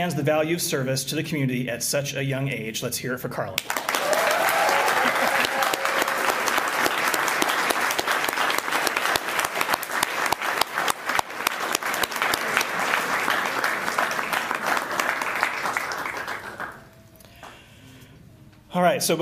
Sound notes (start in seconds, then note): 3.6 applause